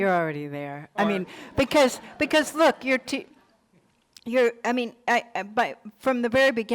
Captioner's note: crowd laughing